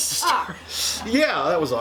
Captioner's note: laughs